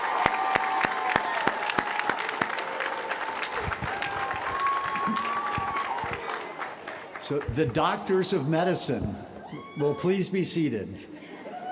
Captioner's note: applause